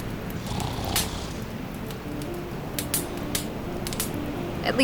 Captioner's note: Jack snoring